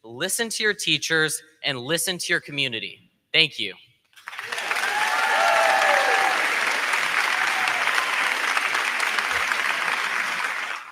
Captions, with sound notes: listen to your teachers, and listen to your community. Thank you. (crowd cheering) (crowd clapping)